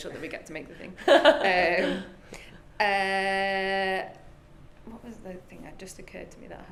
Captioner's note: laughs